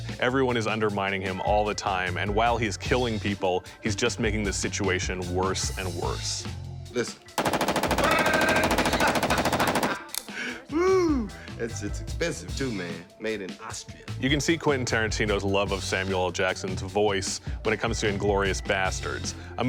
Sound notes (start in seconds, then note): 7.4 gun banging; 8.0 laughing